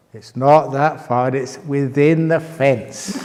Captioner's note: laughter